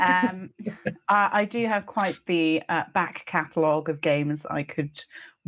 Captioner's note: laughing